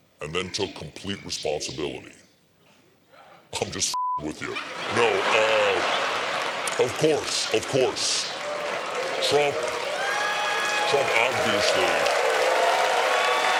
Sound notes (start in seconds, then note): 4.4 laughter; 11.4 cheers and applause